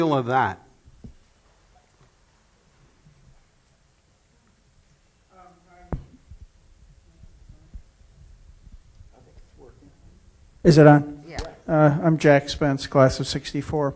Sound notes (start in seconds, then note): 0.9 pause